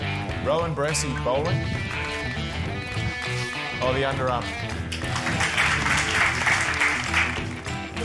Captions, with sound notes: Rowan Brassey bowling? Oh, the underarm. (APPLAUSE)